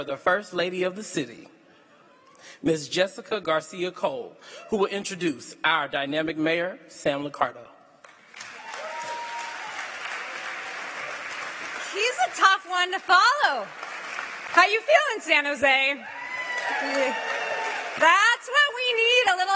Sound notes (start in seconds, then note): 8.1 cheering and applause